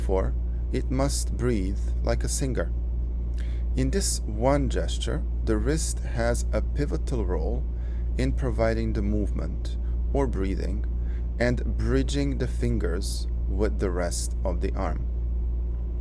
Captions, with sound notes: and therefore it must breathe like a singer. In this one gesture, the wrist has a pivotal role in providing the movement (or breathing) and bridging the fingers with the rest of the arm.